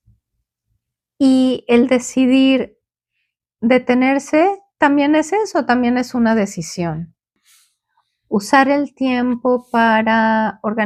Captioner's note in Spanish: resoplido